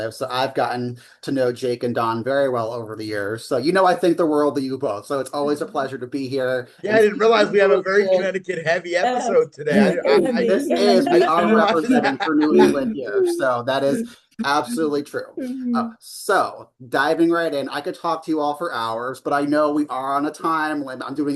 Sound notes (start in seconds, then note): 10.3 participants chattering